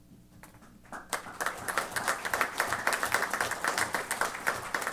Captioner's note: applause